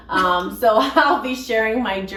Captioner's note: both laughing